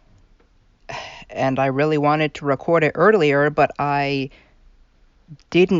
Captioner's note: sigh